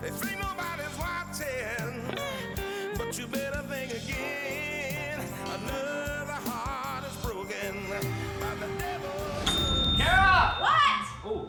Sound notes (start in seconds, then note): 7.4 bell dings